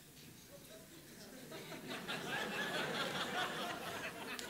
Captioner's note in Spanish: risas